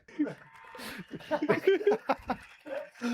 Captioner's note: laughter